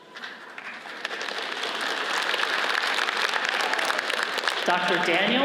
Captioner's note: audience applauds